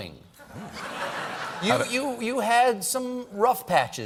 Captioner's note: laughter